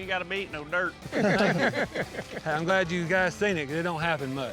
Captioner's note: laughter